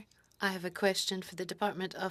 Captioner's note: speaking French